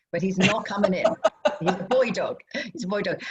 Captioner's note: laughter